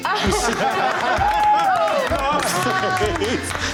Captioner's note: cheering